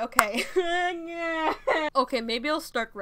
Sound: weird crying noises

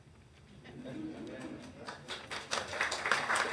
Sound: attendees laughing; hands clapping

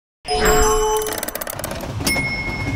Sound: chime tone; bell chimes

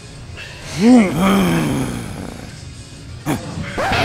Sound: grunting, growling

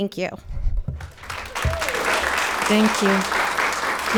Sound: audience applauding

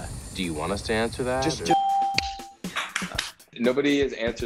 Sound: ding; claps

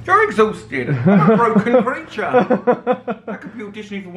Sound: laughs

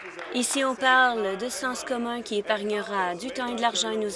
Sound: applause

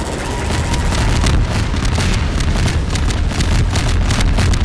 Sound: explosions

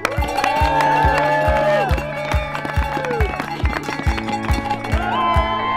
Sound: cow bell ringing; people cheering

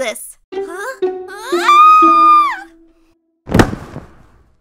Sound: screaming

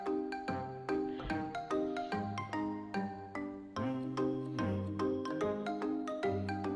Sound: haha

